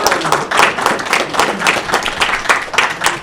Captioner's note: applause